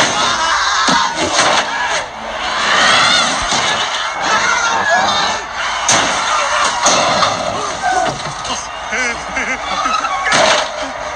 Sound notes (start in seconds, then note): 3.1 random screaming; 7.9 nervous laughter